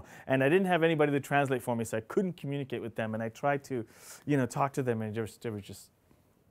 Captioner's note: none